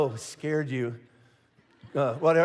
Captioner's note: congregation laughing